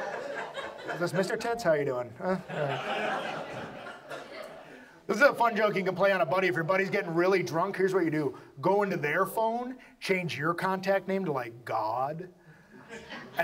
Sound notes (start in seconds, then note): 0.0 audience laughs; 4.9 audience laughs